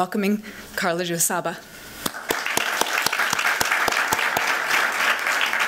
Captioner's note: applause